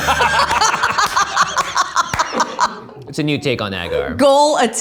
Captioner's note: laughs